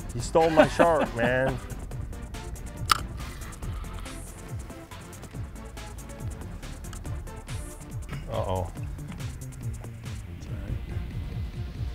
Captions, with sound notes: You stole my shark, man. (reel clicking) (techno music) - Uh, oh.